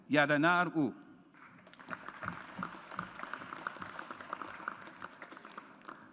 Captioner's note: audience applauds